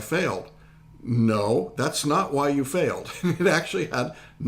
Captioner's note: laughing